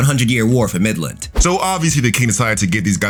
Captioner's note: air whooshing